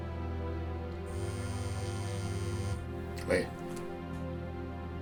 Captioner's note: cell phone buzzes